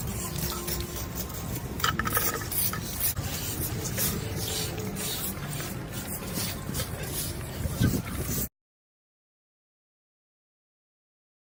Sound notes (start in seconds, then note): 3.2 sweeping sounds